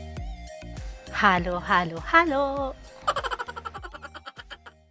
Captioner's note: laughing